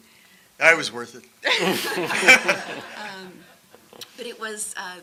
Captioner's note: audience laughing